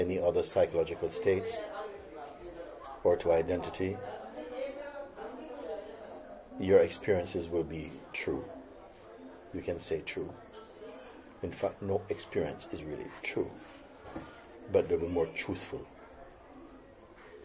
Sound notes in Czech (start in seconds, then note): none